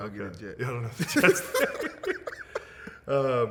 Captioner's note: laughing